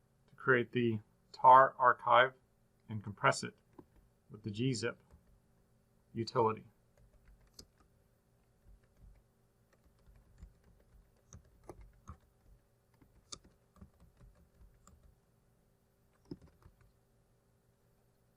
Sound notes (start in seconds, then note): 7.2 typing